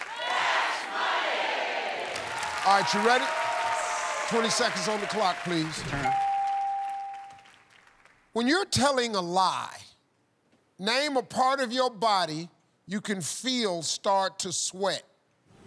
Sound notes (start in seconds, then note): 6.0 bell dings